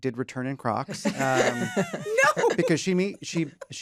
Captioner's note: laughter